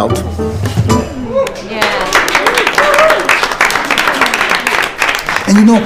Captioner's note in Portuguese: aplausos